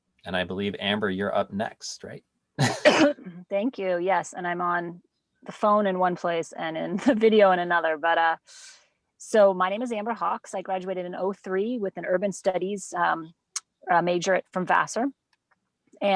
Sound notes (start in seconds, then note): 2.6 coughing